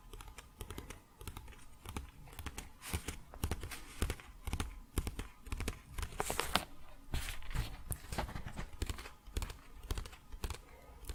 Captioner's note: tapping on pages